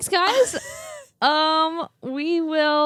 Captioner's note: laughs